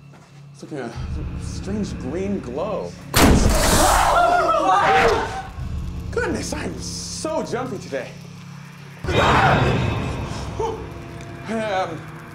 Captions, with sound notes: Seems to be a strange green glow. [screaming] Goodness, I am so jumpy today. [screaming] Ooh!